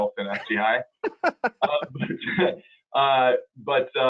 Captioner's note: laughing